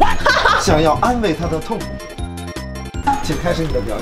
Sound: laughing too much that she almost ran out of air

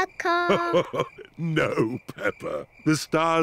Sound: chuckles

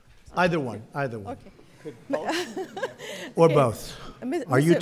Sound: laughs

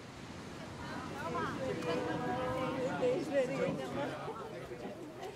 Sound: noises of ocean waves, croaking of crows, people speak in malayalam

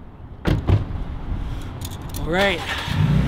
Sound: doors closing

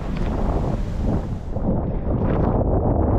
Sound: wind

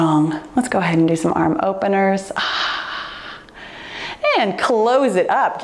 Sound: sighs

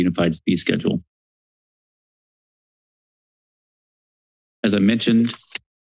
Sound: silence

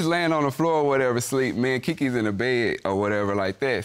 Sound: none

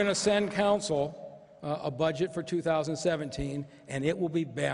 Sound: applause

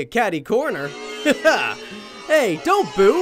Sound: soft game booing; chuckles

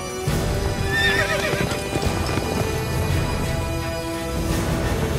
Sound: heroic theme; horse neighs, galloping hoofbeats; heroic theme continues

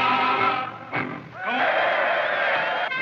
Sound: cheering

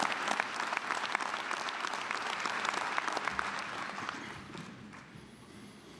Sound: applause

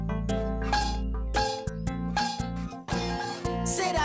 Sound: bang! Bang! Bang!

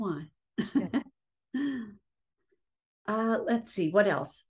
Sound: chuckling

